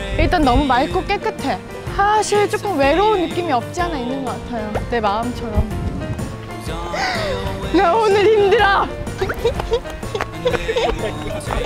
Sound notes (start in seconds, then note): 6.9 sniffle